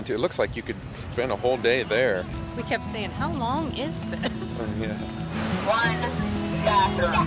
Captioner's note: laugh